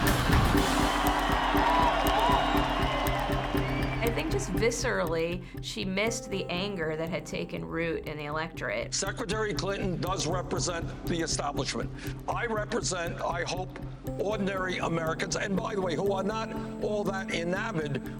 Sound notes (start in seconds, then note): 4.0 crowd cheering